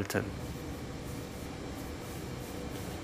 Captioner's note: soft whirring